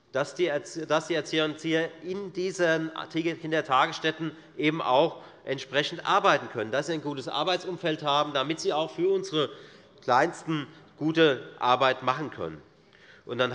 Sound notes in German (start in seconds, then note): none